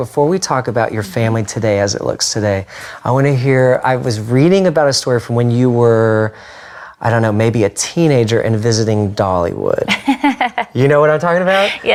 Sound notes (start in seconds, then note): 9.9 laughs